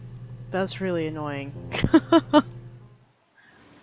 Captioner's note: laughs